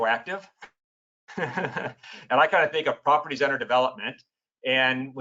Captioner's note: laughs